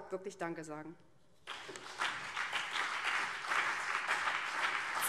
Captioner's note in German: Beifall BÜNDNIS 90/DIE GRÜNEN und CDU